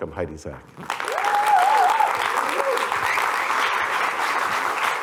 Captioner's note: applause